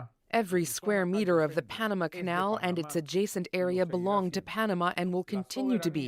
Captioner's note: speaking alternate language